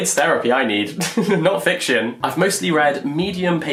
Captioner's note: laughs